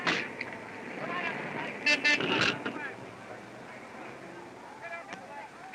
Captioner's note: car horn beeping